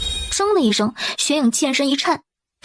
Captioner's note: clang